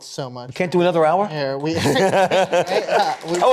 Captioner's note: laughter